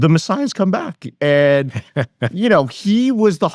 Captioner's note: laughs